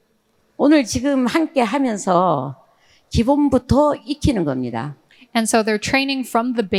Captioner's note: speaking in foreign language